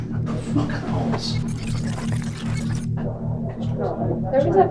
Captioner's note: video whirring